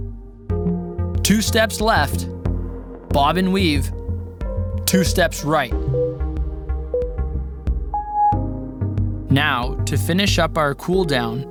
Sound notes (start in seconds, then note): 6.8 timer beeping